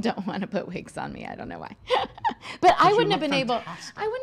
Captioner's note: laughs